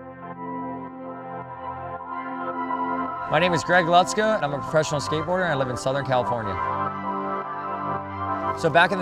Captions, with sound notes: - [Voiceover] My name is Greg Lutzka and I'm a professional skateboarder and I live in southern California.